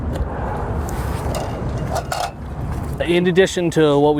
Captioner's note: metal clanking